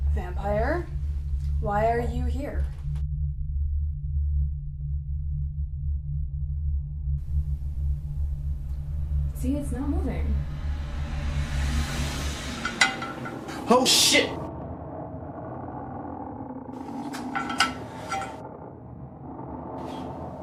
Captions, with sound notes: Vampire, why are you here? See. It's not moving. (Dial rattles on glass) Oh shit!